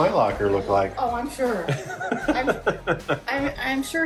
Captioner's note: chuckling